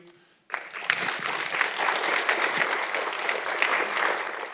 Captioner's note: audience clapping